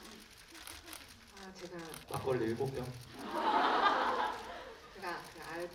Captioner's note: laughter